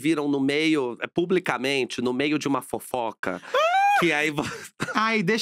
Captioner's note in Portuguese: grita